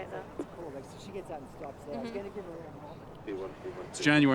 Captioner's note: indistinct chatter